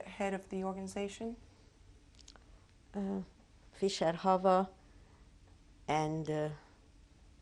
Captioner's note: pauses for 3 seconds